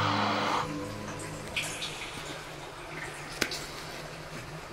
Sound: water dripping

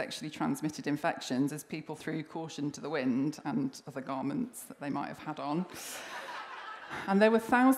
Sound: laughter

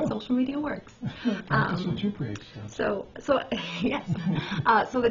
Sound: laughs

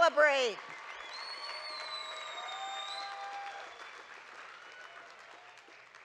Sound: audience cheering and clapping

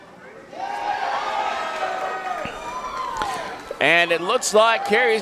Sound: crowd cheering

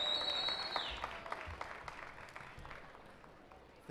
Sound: applause

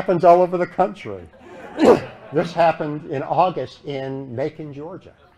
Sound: laughter

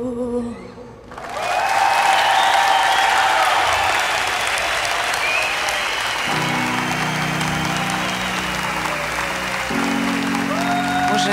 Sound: audience cheers and applauds

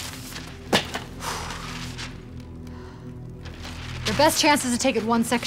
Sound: sighs

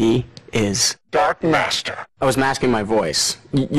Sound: voice effects

